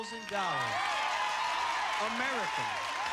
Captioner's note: cheers and applause